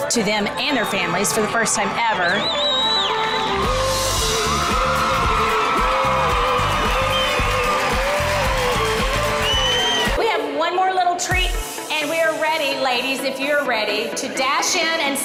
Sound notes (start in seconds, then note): 2.6 everyone cheering; 5.2 upbeat music